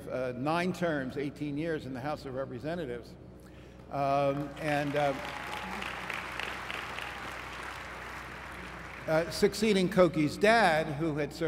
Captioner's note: applause